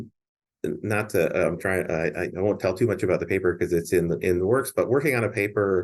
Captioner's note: none